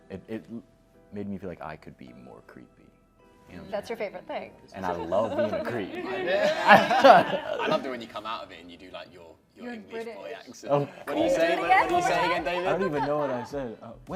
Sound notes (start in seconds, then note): 5.0 laughter